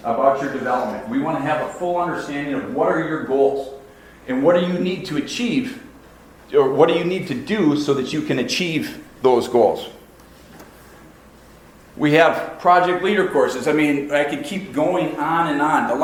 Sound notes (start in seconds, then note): none